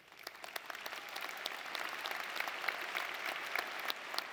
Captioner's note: audience applauding